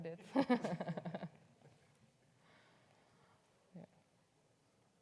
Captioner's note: laughs